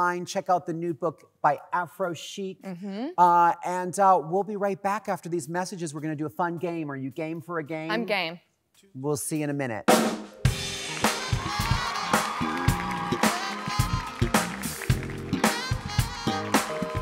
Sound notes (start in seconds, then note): 9.9 upbeat jazz music; 10.6 audience claps and cheers